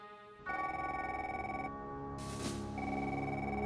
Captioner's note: phone ringing